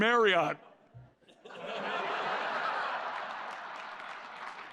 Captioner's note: laughter